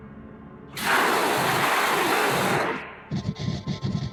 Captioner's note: Dream Eater growls